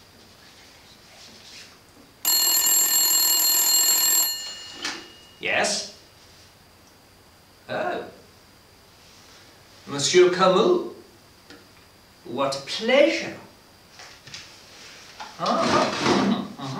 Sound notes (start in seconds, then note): 2.2 phone rings